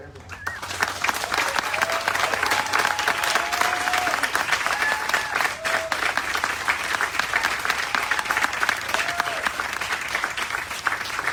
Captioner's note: applause